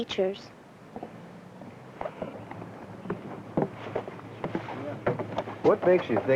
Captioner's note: footsteps